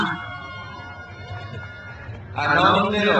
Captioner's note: crowd cheers